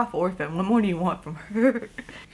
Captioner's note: chuckles